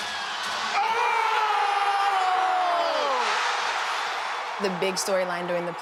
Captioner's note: cheering